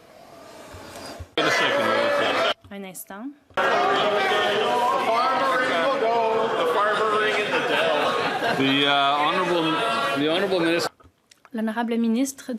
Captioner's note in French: voix de l'interprète